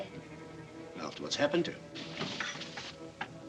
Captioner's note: rustle